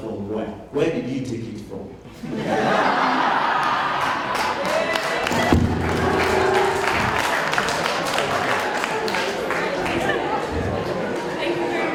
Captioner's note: applause